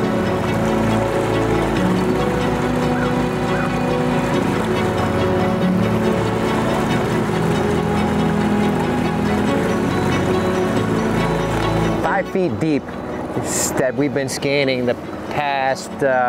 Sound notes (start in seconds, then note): 0.1 engine droning; 0.1 gentle music continues; 9.1 engine droning; 9.1 gentle music continues